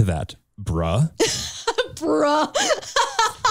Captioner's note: chuckles